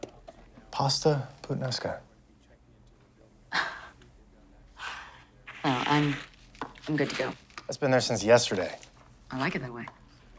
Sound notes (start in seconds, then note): 2.8 chuckles